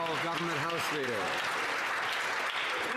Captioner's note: some Applause